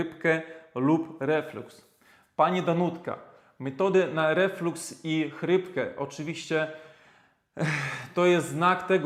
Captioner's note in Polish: westchnienie